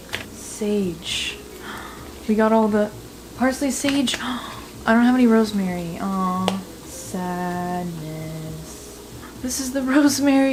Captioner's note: gasp